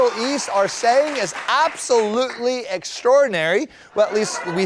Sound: laughter

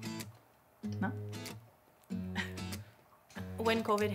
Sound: laughs

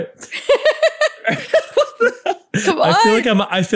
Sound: laughing

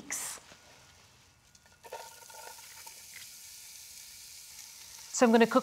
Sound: sizzling

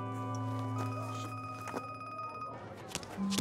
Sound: phone ringing

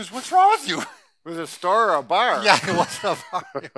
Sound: laughs

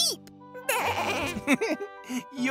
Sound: laughing

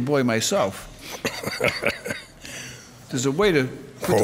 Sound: laughs

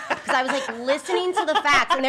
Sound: laughing

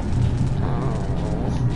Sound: groans

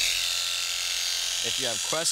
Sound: shears buzzing

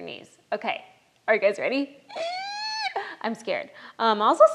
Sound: groans

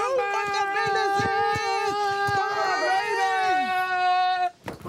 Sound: both shouting

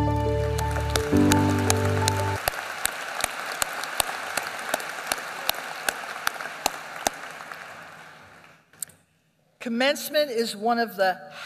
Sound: applause

